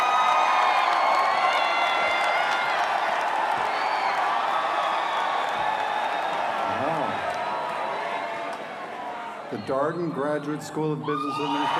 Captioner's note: cheers and applause